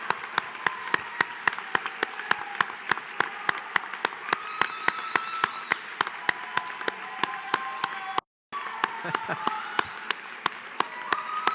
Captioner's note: cheering